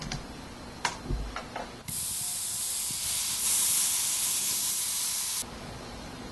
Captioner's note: motor hisses